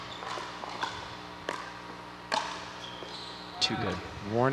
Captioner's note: ball bouncing